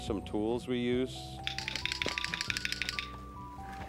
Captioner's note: clattering